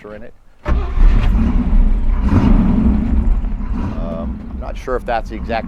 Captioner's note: engine starting and revving